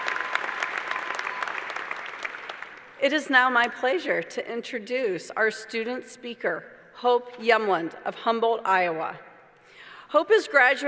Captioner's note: applause